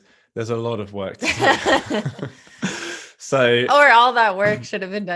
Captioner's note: both laughing